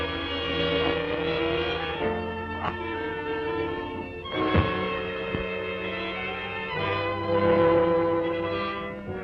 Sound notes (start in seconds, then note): 4.4 thuds